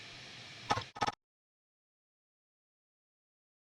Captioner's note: static crackles